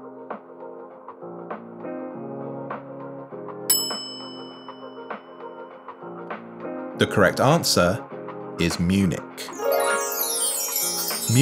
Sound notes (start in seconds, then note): 3.7 bell rings; 9.5 bright chimes